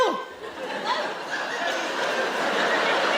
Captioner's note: laughing